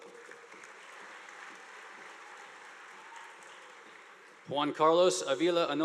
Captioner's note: audience applauding